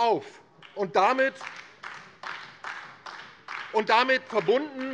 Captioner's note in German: Beifall DIE LINKE